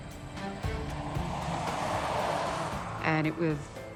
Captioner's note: traffic rustling